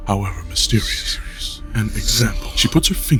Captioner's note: analytical tone